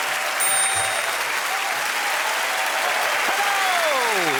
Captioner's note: cheering and applause